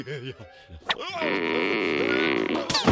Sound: chuckling; broom creaking

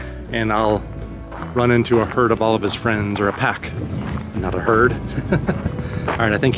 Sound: laughter

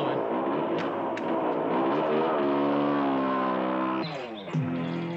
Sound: engine rumbling; dramatic, suspenseful music

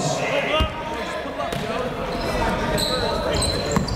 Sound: chatter

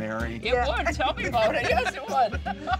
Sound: all laughing; chuckling

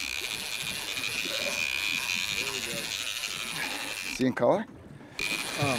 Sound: reel spinning

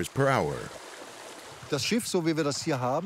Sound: speaking German

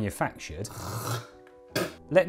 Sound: spit

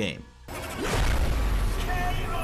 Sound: loud explosion

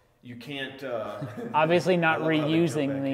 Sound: laughing

